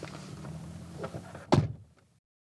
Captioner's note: door closing loudly